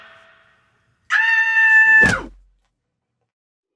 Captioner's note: thump